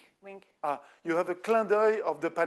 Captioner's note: speaking French